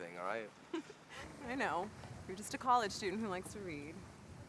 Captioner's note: giggles